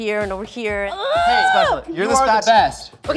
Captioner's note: grunts